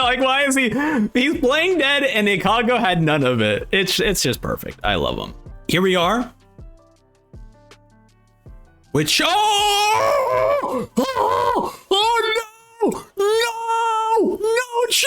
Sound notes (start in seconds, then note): 9.1 screams